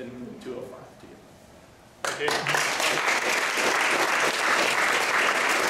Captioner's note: applause